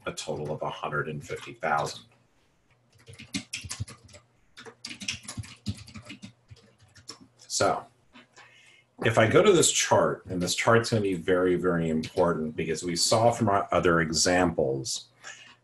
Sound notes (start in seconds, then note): 2.9 typing